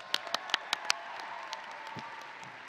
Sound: audience and graduates applauding; audience and graduates cheering

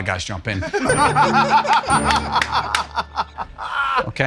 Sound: laughter

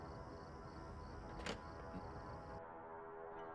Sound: door open sound

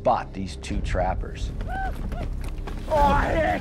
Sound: whooping sounds nearby

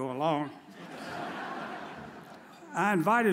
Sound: audience chuckles

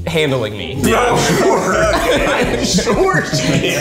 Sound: everyone laughing

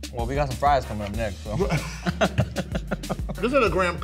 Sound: laughs

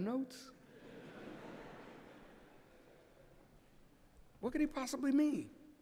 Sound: laughter

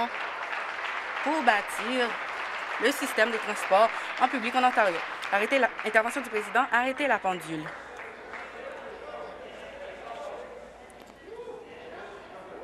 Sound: cheering and Applause

